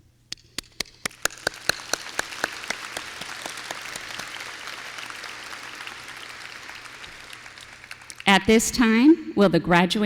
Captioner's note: applause